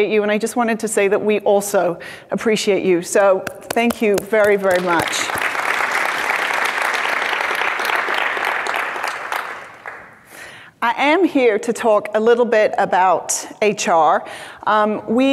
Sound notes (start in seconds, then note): 4.6 audience applauds